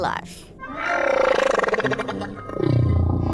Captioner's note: low-pitched humming